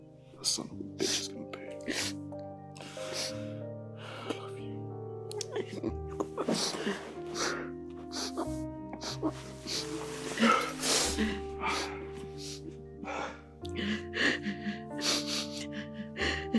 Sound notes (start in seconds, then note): 12.5 Mamma Pita continues to cry in pain as Jesse leaves